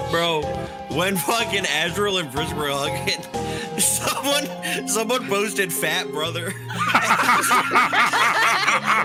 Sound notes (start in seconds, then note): 6.6 all laughing